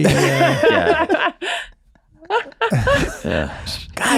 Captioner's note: laughing